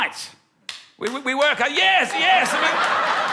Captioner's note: scattered applause